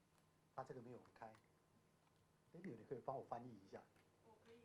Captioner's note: Mandarin